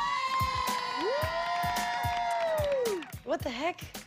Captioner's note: cheering; cheers